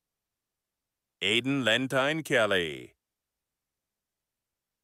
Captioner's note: none